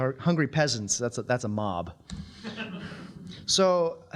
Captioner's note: audience laughing